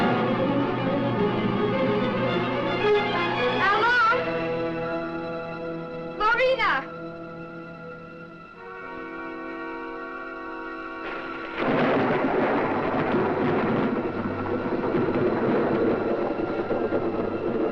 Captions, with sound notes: - Al-Long? - Larina? (thunder rumbling)